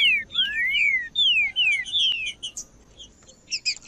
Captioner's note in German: trinca ferro cantando